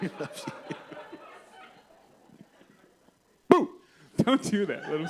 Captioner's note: laughter